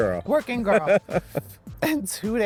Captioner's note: laughs